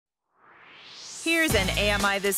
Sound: swoosh

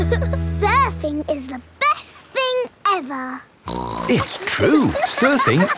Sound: giggle; snorts

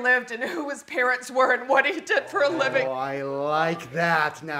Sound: none

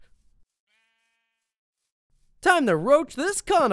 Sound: sheep bleat

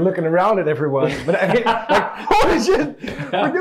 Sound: men laugh

